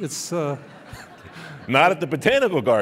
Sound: laughing

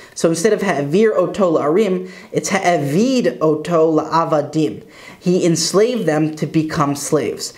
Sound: Hebrew

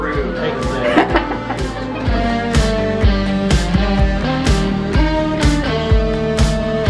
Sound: laughs

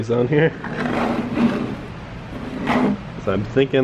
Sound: scraping

